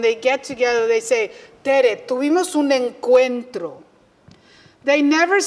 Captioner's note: spanish